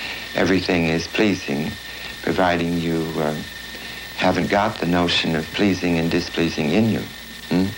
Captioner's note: laughs